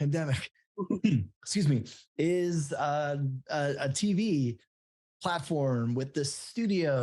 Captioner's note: coughs